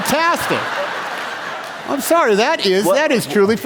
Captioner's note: laughter